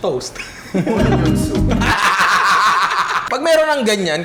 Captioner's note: laughs